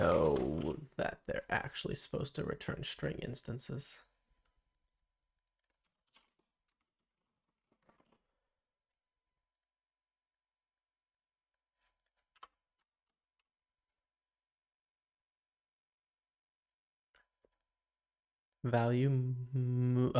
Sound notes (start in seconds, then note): 3.9 silence